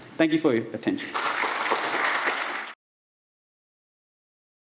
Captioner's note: audience applauds